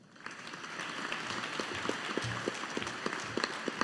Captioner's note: audience applauding